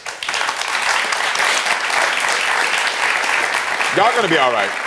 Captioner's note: audience clapping